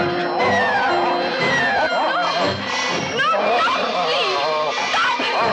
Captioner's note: yelling